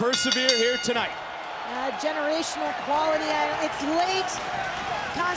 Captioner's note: applause